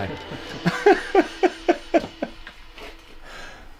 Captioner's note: chuckles